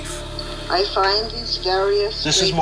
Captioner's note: voiceover